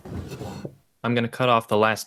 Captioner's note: drawer opened